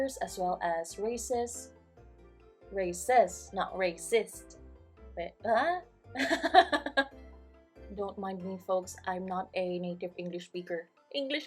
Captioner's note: laughs